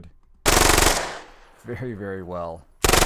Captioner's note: gun fires rapidly multiple times